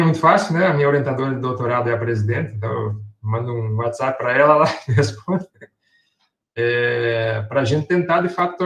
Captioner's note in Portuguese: risos